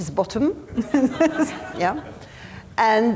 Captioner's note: attendees laughing